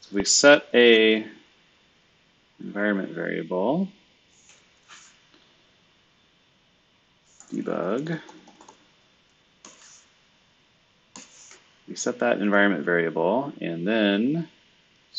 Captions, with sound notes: So we set a environment variable. Debug. (computer keyboard clicking) You set that environment variable and then